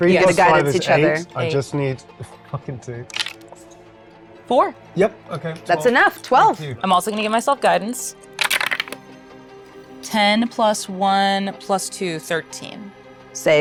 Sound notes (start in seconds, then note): 3.1 dice clattering; 8.4 dice clattering